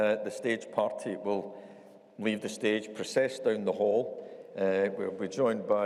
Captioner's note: none